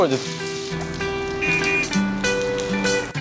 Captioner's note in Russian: сигнал белой машины